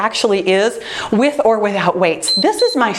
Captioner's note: timer beeps